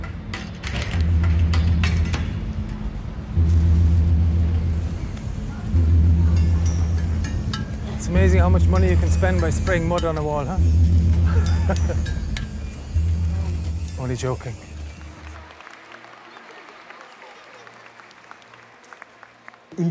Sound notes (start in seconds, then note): 1.3 rhythmic experimental music; 16.1 applause